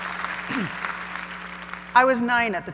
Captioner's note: laughs; clears throat